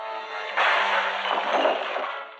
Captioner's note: glass shattering